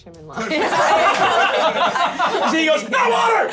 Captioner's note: laughter